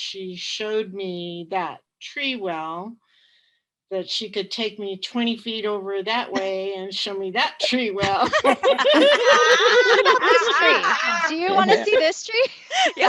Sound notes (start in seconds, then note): 7.9 laughter